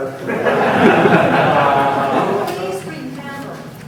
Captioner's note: crowd laughing